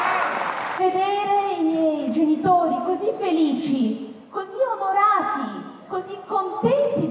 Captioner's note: in Italian